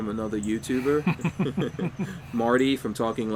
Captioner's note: both chuckling